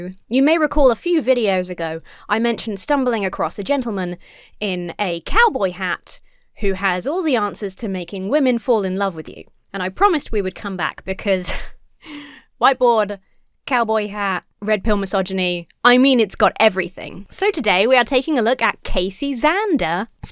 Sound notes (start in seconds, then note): 11.5 chuckles